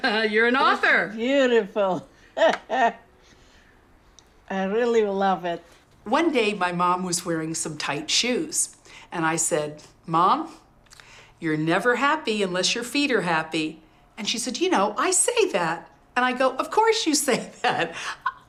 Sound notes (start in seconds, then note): 2.3 laughs